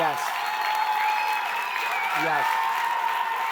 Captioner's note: audience cheering and clapping